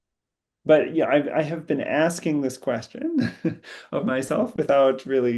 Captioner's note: laughs